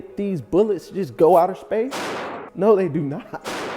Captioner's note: gun firing